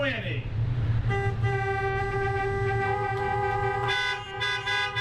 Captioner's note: horns honking